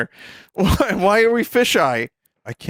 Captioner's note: laughs